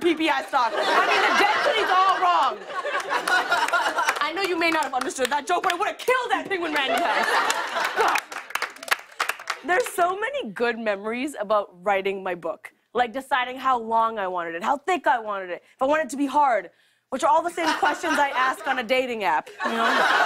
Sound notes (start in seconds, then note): 2.5 laughter; 6.4 laughter and applause